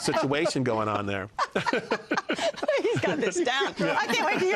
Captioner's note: laughter